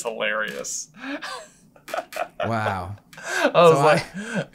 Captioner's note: laughs